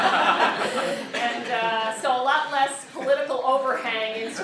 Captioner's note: laugh